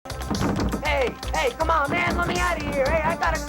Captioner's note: banging